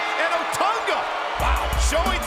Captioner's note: bell ringing